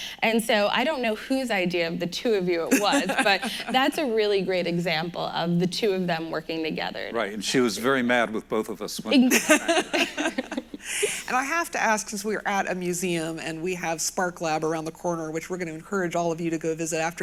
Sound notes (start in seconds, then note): 9.1 they laugh